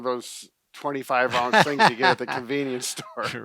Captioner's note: laughs